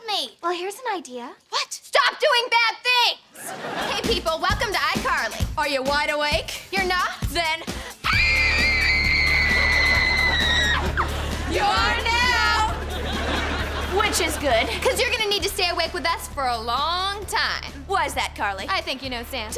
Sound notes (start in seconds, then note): 8.0 screaming